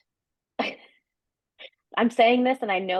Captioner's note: laughing